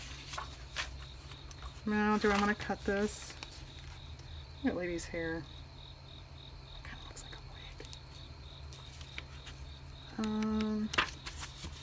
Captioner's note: whispers